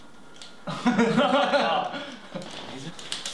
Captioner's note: laughter